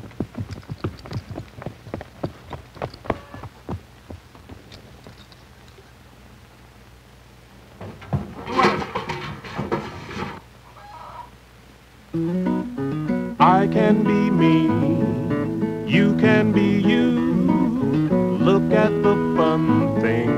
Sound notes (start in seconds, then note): 0.0 horse, trotting; 7.6 chickens clucking; 7.8 metal bucket clanking